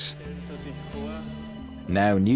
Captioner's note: speaking German